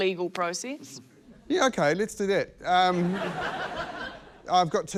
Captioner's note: laughter